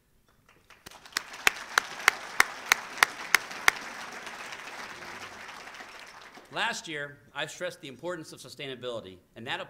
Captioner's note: applause